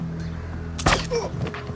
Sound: gunshot

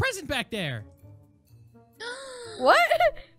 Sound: Tina gasps

